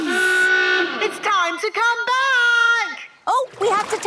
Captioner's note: horn honking; honking